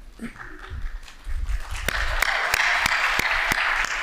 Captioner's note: applauding